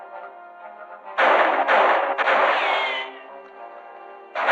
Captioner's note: gunshots